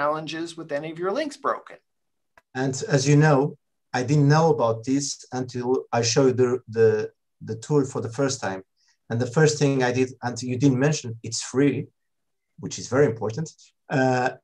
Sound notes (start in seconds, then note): none